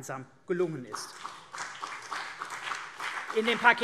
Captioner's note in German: Beifall CDU und BÜNDNIS 90/DIE GRÜNEN